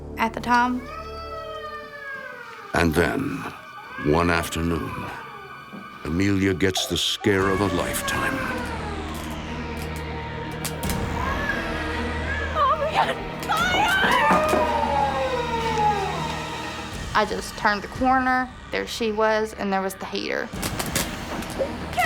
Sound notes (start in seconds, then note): 2.1 Chelsea crying